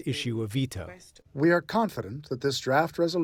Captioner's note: through translator